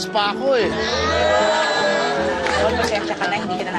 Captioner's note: everyone cheering